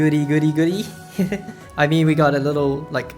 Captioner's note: chuckle